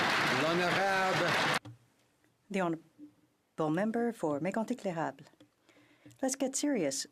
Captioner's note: some Applause